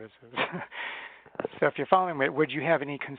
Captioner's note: chuckles